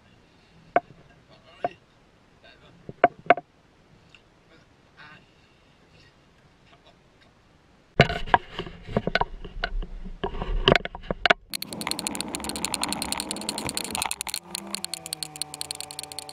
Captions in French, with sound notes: puis on embarquera quelque chose. On conduira en filmant. All right ? [ACCÉLÉRATION]